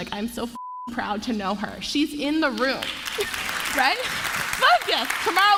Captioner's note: applause